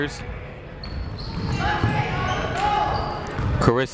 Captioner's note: people shouting in the crowd